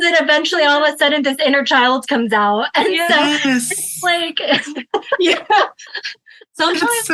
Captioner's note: laughs